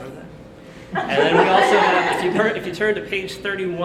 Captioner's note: audience laughter